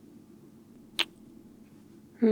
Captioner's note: kiss